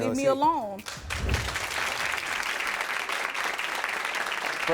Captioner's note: audience claps